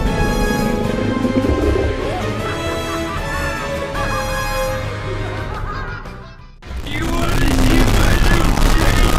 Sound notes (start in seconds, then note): 5.0 laughing